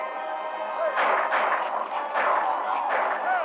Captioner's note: gunshots